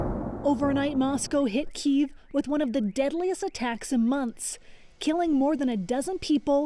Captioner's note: bombing